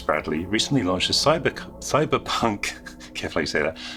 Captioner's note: stutters